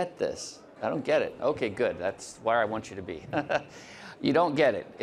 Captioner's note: chuckles